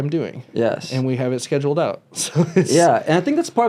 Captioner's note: laughs